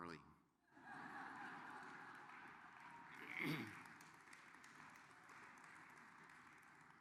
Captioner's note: laughter